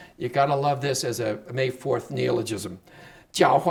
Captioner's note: speaking Chinese